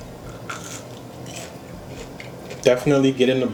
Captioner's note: crunching